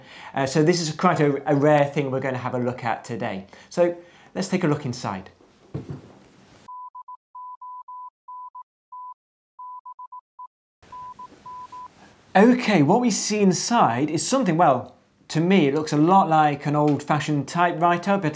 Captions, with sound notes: So this is quite a rare thing we're going to have a look at today. So let's take a look inside. [morse code sounds] OK, what we see inside is something--well, to me, it looks a lot like an old-fashioned typewriter,